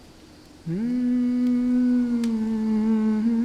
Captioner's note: humming a melody